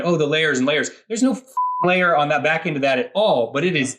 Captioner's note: beep